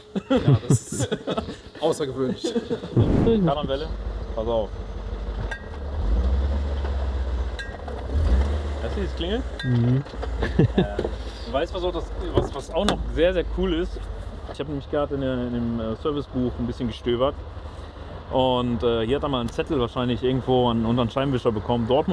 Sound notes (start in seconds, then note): 0.0 laughter; 5.5 kling; 7.6 kling